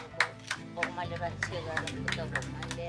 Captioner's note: clapping